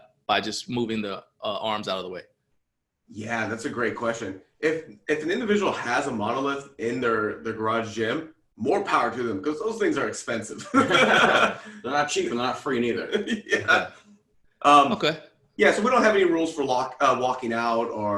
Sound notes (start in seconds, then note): 10.5 laughter